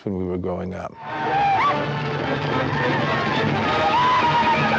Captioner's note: natives whooping